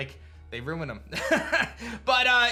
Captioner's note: laughs